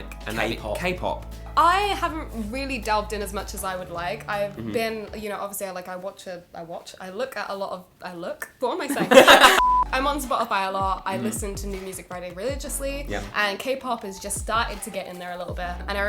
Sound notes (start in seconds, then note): 8.9 all laughing